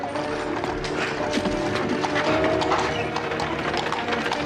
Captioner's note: terengah-engah